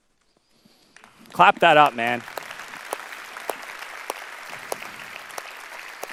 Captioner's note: audience applause